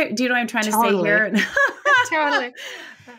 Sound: laughing

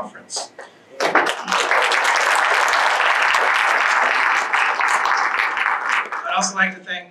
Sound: applause

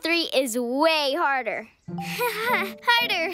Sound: nervous laugh

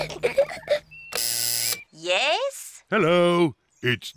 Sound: kids giggling; buzzer sounds

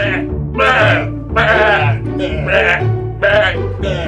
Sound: goat sounds

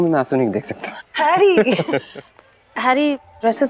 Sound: Harry laughs

